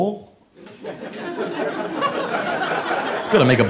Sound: audience laughing

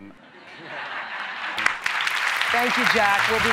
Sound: applause

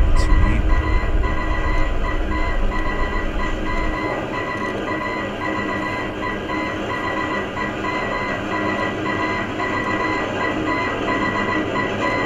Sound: morse Code Continues

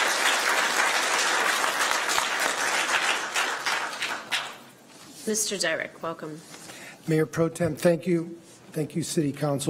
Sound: applause

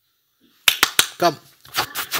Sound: hands clapping

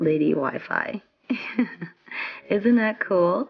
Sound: laughs

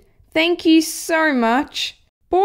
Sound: none

